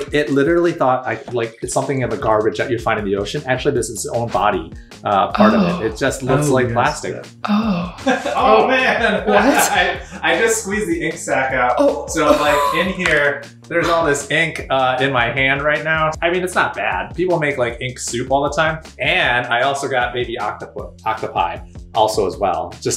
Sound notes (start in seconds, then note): 7.9 laughs